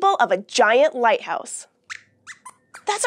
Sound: squeaks squeaks

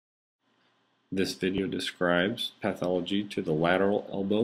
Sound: voiceover

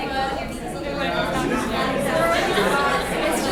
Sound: crowd talking

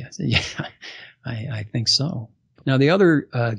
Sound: laughs

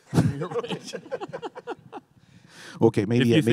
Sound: panelists laughing

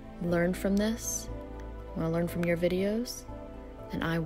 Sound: none

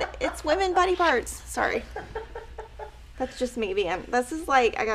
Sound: laughing

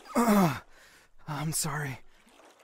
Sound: groans

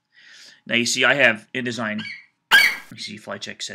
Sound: FlightCheck eagle screeches

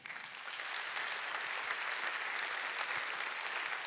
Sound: audience applauding

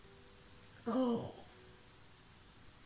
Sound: groans

